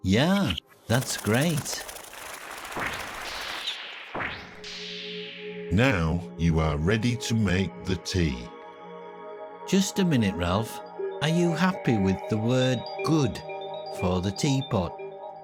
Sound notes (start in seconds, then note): 0.9 hands clapping; 2.9 words whooshing